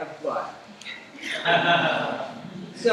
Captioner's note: laughter